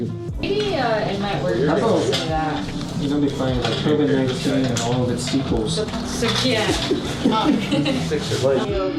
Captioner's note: background chatter